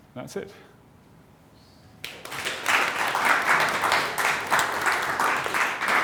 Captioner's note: applause